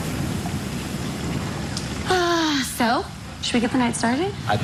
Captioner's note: sighs